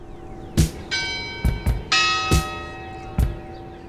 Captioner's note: bell rings